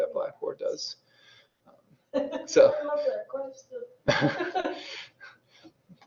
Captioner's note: laughs